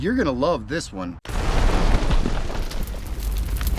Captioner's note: explosion